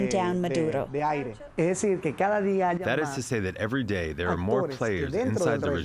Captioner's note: through translator